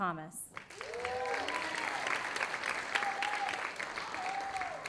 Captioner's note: audience applauding